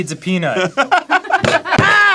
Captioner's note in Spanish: risas; golpea la mesa riendo